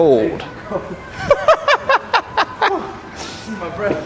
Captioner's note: laughs